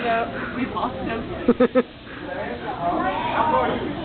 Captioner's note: various chatter, laughs, and reactions